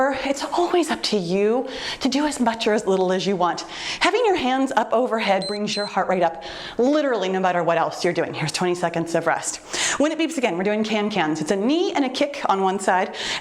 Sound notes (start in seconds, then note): 5.4 timer beeps